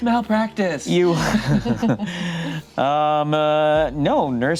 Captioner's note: group laughs